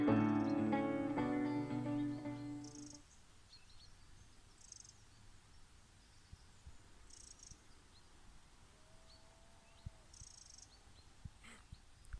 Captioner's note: birds chirping